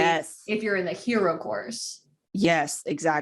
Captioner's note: none